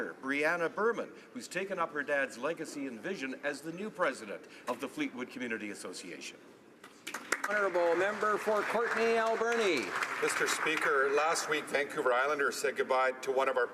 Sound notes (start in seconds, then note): 10.9 some Applause